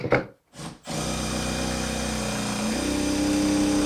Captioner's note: drill drilling